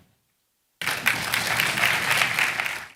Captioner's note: applause